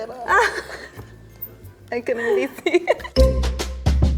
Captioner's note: both laugh; upbeat music